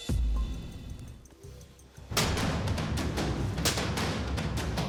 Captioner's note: chopping sound